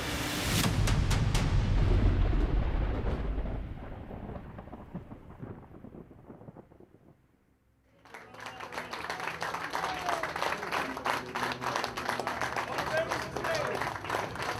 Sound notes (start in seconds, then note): 2.4 thunder rumbles; 7.9 crew applauding